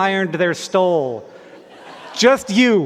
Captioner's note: laughter